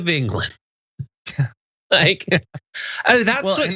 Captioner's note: laugh